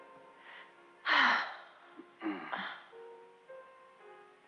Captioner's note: both sighing